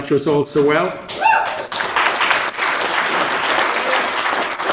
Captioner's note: audience applauding